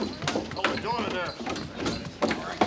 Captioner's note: townsfolk chatter